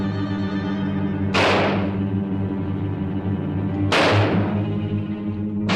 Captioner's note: gun fire banging